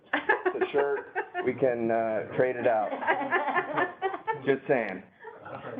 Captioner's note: laughter